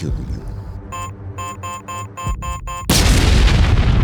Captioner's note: bomb beeping; bomb exploding